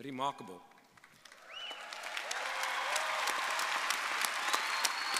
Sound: audience applauding

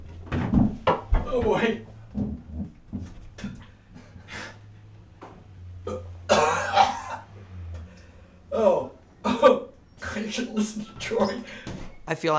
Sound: puking

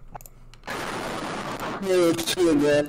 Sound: loud static

